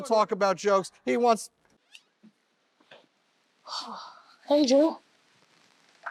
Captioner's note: sighs